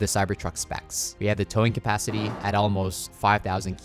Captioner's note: metal clanging